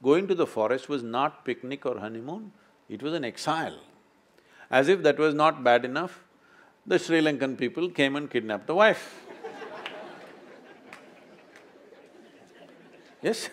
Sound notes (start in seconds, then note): 9.2 laughter; 9.2 laughs